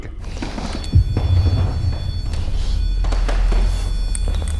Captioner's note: REM-POD beeps